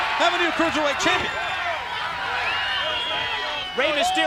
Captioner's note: crowd chattering